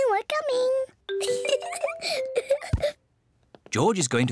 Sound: giggles

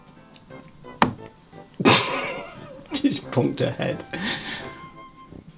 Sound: bonk

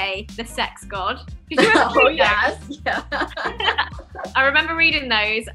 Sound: laughter

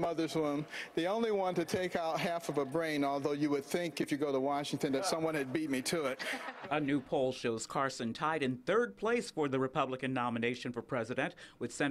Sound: laughter

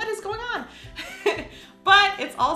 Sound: laughs

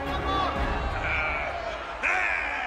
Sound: clamoring

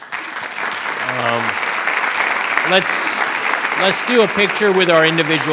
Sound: attendees applauding

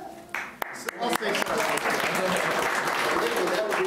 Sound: applauding

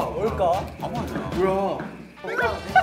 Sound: stomping

